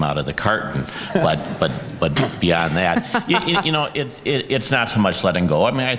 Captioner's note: audience, moderator laughs